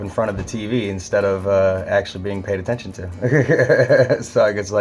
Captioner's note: laughs